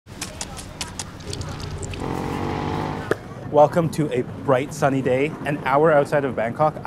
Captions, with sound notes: [fruit squashing and chopping] [motor bike roars] - Welcome to a bright sunny day, an hour outside of Bangkok.